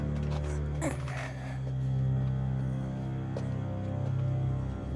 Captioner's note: Homer groaning